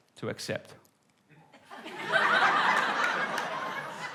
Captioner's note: laughter